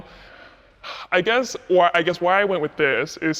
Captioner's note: sighs